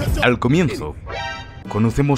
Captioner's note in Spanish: Sonido Alerta Metal Gear